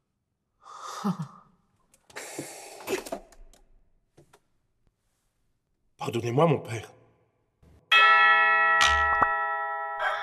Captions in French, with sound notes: [Forte respiration] Pardonnez-moi mon père !